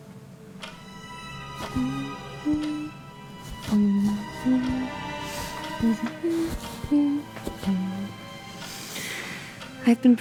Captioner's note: humming A Waltz